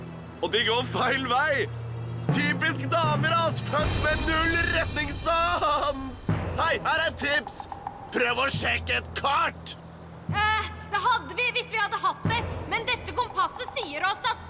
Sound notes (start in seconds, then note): none